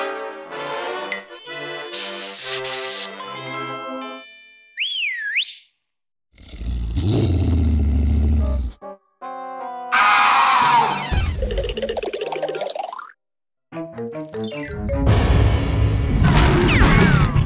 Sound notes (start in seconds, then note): 4.8 whistles; 6.3 growls; 9.8 bell rings; 16.0 growls